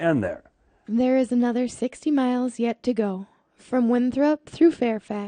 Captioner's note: voiceover